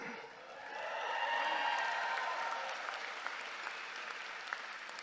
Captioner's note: audience cheering